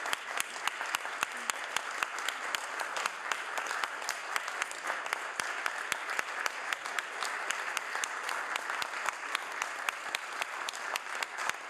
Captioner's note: applause